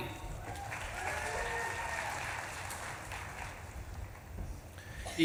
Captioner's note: audience claps and cheers